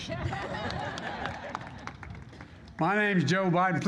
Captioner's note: laughter